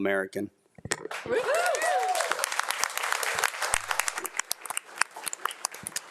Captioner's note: crowd cheering and applauding